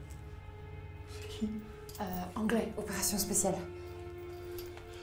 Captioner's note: Ellie speaks in French